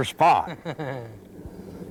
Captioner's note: laughter